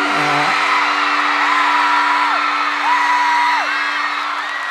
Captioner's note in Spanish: Aplausos y vítores